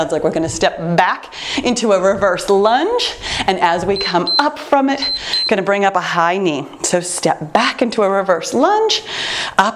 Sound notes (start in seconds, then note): 4.9 timer beeps